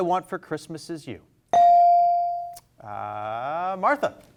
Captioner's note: bell rings